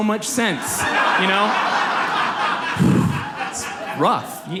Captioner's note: audience laughs